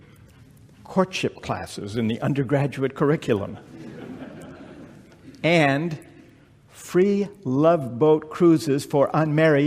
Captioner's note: laughter